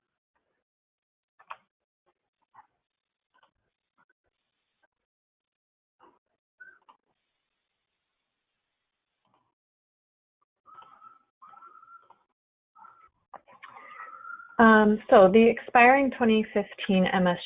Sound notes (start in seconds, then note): 0.7 silence